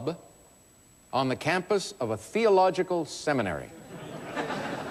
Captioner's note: laughter